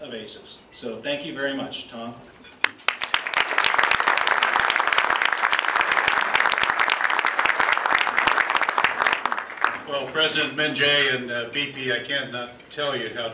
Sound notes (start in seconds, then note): 5.1 applause